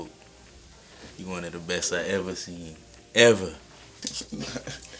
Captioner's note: laughing